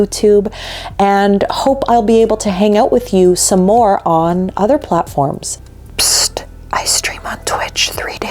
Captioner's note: whispering